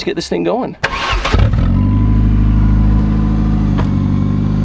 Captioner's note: car starts